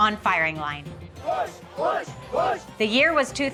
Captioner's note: chanting